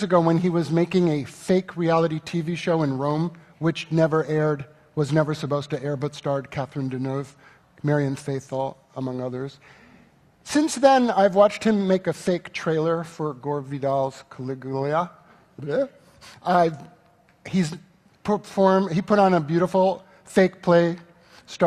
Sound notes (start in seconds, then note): none